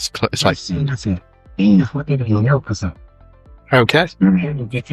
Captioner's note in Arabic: لغة أجنبية